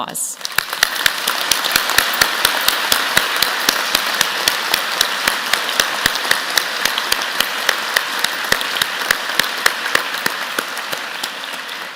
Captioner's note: applause